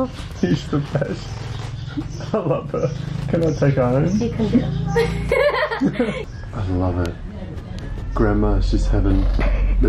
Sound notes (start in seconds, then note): 4.8 laughs